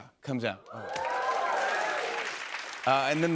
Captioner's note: cheers and applause